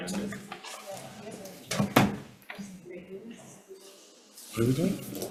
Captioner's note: group chattering